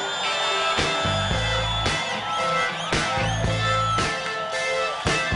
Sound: audience applauding

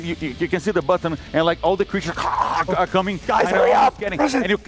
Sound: grunts

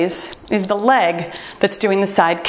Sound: timer beeps

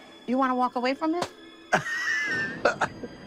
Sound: laughs

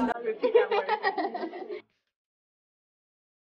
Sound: girls laugh

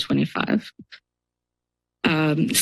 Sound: pause

